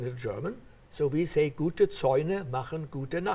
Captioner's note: speaking in foreign language